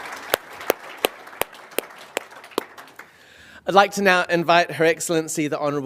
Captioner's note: applause